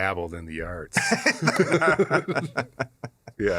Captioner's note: laughter